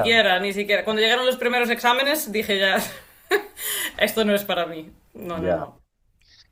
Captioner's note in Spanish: risas